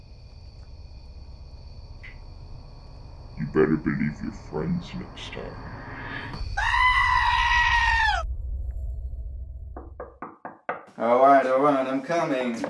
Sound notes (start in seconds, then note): 6.6 Jacob screams; 9.8 knocks on door